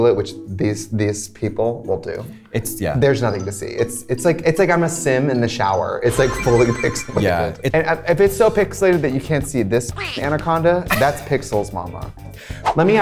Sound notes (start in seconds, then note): 6.0 majestic chime; 10.0 laughing